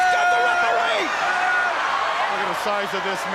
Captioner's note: crowd screaming